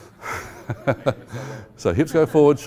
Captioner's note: laughing